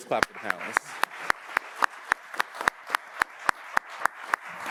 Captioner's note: audience applauds